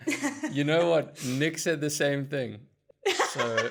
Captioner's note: laugh